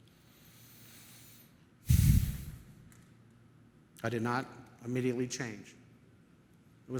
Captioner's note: sighs